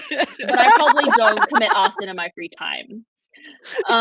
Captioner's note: laughing